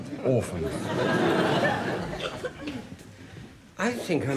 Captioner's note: audience laughs